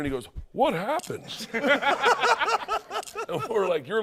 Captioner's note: laughter